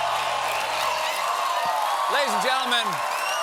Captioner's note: cheers and applause